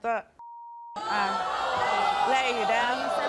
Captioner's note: audience groans